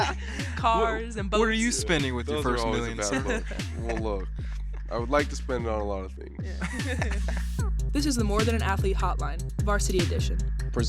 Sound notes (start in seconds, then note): 6.4 hosts laughing